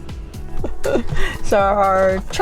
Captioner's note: laughs